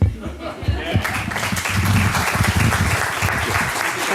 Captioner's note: applause